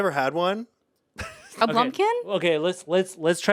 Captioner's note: Anthony laughs